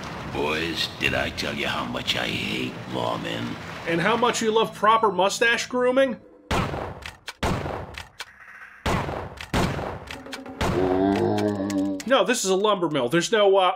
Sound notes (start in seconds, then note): 10.6 zombie sound